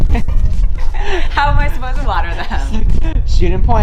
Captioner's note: laughs